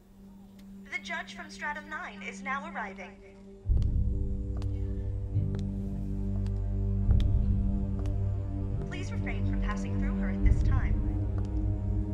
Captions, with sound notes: The judge from Stratum Nine is now arriving. (suspenseful music) (footfalls sounding) Please refrain from passing through her at this time.